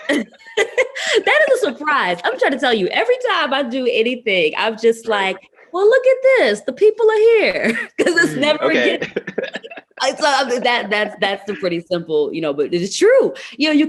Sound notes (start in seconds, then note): 7.6 laughs